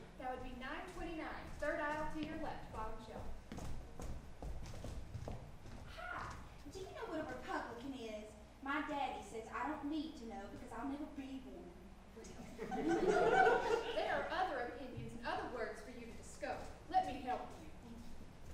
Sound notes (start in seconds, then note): 12.6 audience laughs